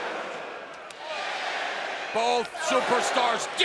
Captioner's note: cheers and applause